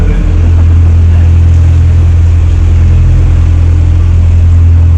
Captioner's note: laughing